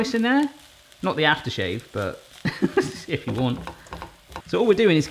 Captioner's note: laughs